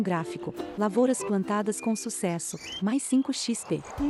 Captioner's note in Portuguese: Pássaros